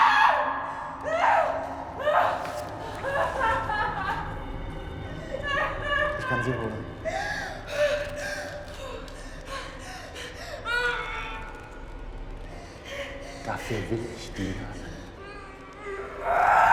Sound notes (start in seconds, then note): 4.6 crying